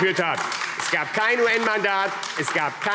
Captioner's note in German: Beifall AfD